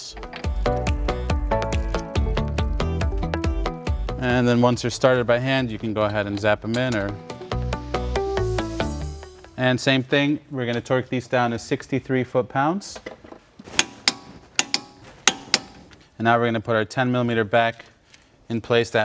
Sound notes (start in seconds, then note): 0.1 upbeat music; 7.1 upbeat music; 14.5 metal clanking